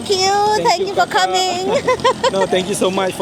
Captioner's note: laugh